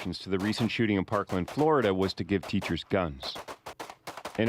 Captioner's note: gunshots